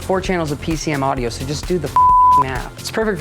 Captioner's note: beep